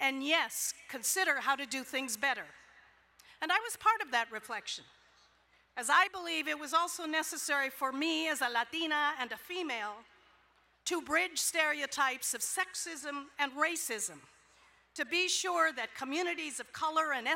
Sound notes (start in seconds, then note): none